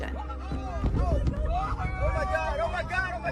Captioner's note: civilians screaming